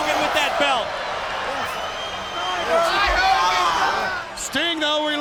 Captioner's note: people chattering